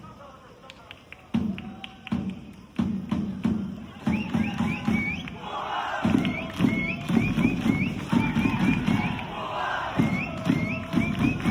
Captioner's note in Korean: 짝짝 짝짝짝 짝짝짝짝